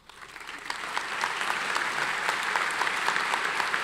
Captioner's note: applauding